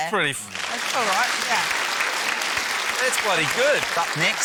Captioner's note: applause